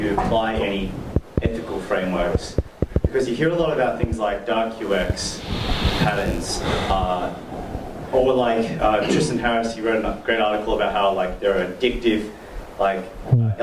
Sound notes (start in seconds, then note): none